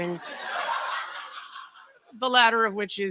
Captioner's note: laughter